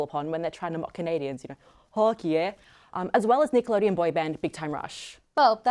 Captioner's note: bad canadian accent